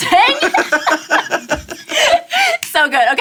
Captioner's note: laughs